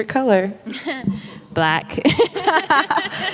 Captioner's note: laughing; laughs